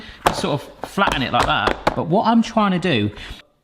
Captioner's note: mould bangs